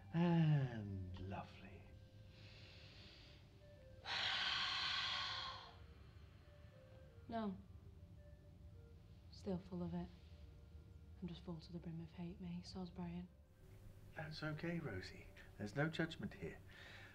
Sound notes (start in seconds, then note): 4.0 inhaling; 4.0 exhaling